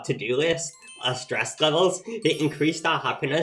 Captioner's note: twinkling